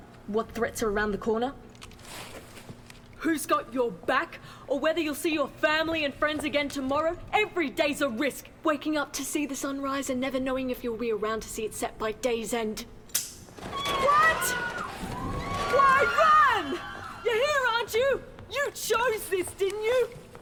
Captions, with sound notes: What threats are around the corner. Who's got your back! Or whether you'll see your family and friends again tomorrow. Everyday's a risk. Waking up to see the sun rise and never knowing if you’ll be around to see it set by day’s end. [guns snaps] [screams & crashes] What?! Why run?! You're here aren't you? You chose this. Didn't you?!